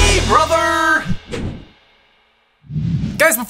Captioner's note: whooshing sound plays